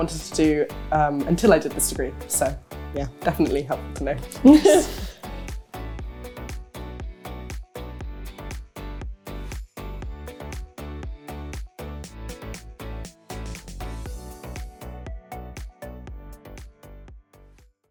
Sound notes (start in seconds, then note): 4.4 laughter